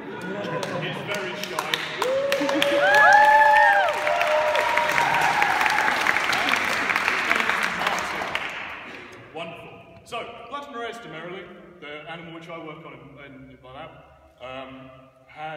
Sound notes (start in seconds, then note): 3.0 raucous Applause